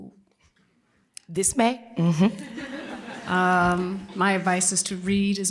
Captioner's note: laughter